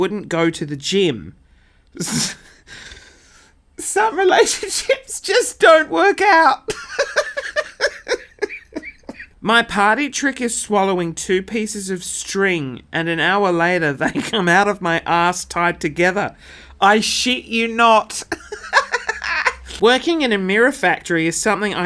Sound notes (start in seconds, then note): 2.0 laughs; 6.6 laughing; 18.1 laughs